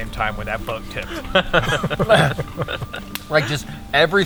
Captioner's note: all laugh